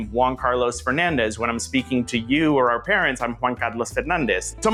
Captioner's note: latin accent